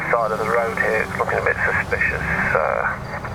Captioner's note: radio